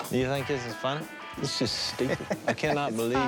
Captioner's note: laughs